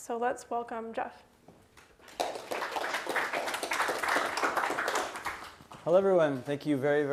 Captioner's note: applause